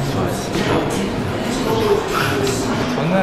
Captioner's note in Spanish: Suspiro